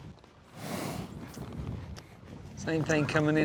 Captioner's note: horse snorts